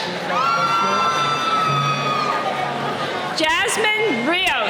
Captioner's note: cheering